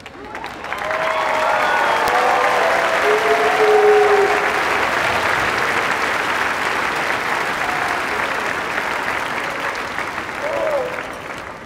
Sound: cheers and applause

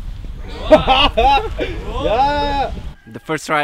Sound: laughter

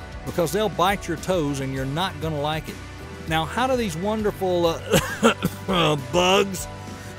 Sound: cough, cough

